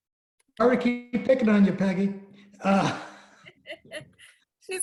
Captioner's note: laughs